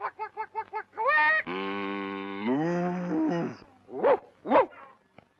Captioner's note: chicken clucking; cow mooing; dog barking